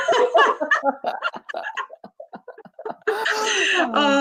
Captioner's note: laughs